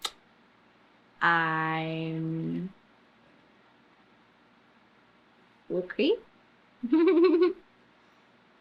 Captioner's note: laughs